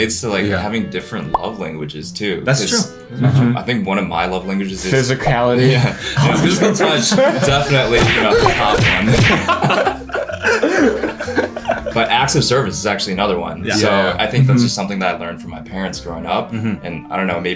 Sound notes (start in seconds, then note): 5.6 everyone starts laughing; 9.5 everyone laughs